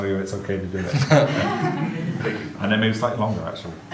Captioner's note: audience laughs